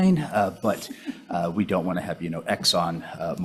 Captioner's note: chuckling